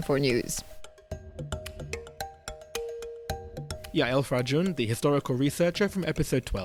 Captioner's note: voiceover